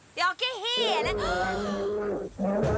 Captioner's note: growls